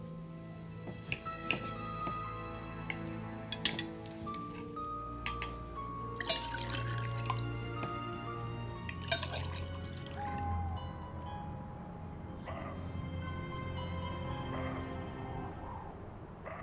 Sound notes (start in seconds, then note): 0.9 cutlery clanking; 6.2 water pours; 10.1 owl hooting